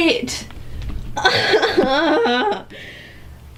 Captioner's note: simultaneous groaning and laughing